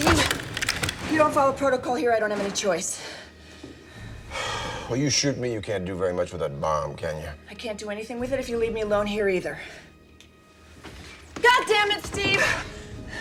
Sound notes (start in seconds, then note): 3.8 sighs